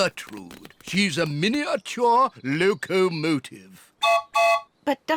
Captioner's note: toots whistle